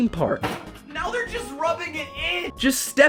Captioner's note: smash